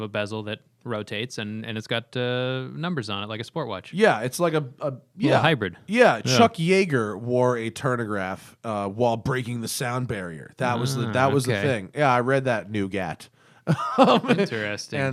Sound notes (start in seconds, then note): 13.6 laughter